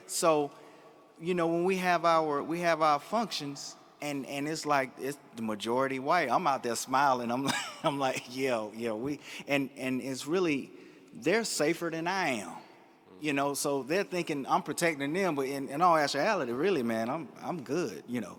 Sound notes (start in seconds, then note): 7.5 laughs